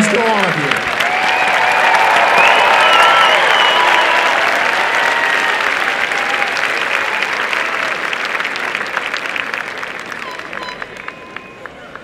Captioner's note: applause and cheering